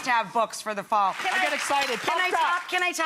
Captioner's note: audience applauding